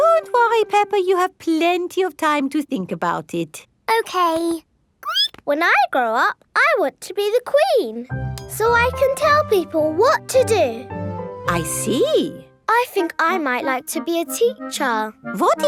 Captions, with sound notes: Don't worry, Peppa, you have plenty of time to think about it. Okay. (SQUEAKS) When I grow up, I want to be the Queen, so I can tell people what to do. I see. I think I might like to be a teacher.